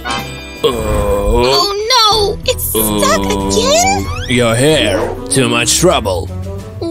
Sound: grunting

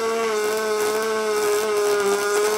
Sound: whirring

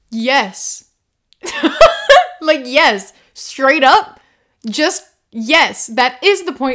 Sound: laughter

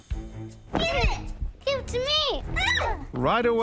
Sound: scream

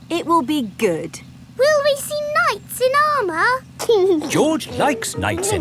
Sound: giggling

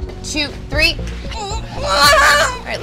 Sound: groans

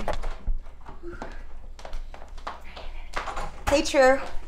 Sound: door opens

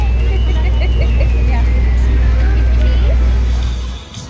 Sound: engine roaring; laughing; upbeat music

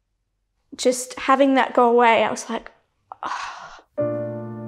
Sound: exhales

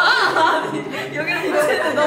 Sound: laughing

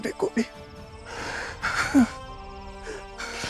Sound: Kohli gasps

